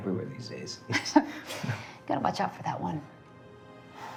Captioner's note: Margaret laughing; gentle foreboding music